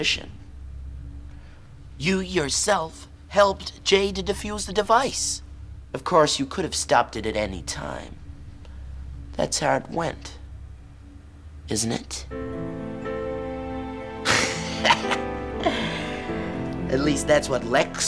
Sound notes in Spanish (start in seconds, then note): 14.3 risas